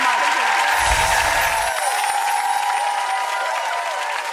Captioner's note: audience cheering